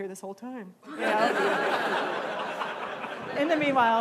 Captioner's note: laughing